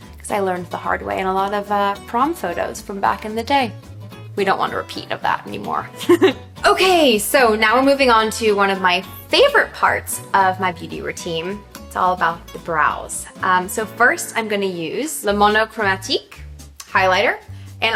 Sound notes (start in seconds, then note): 6.0 chuckles